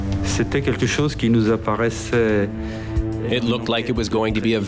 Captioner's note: speaking in foreign language